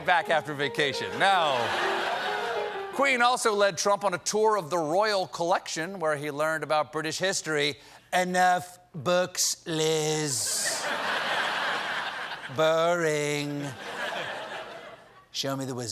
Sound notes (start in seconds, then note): 3.0 laughter; 3.0 piano riff; 10.5 laughter